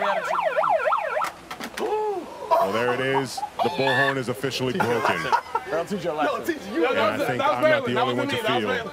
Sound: siren

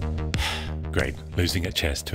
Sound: sighing

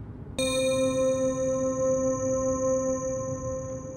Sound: another electronic ding

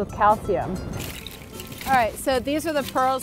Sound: oysters clattering

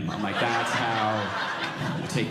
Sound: audience laughing

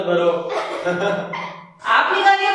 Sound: laughing

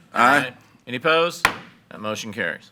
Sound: gavel bangs

